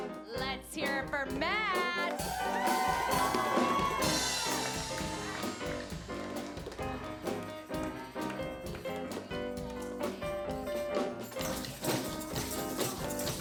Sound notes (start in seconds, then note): 2.0 cheering; 5.2 drum solo over piano